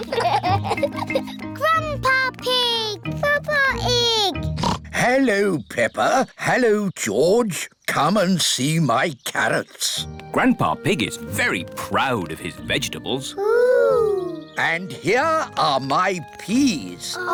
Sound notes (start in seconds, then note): 4.5 oinks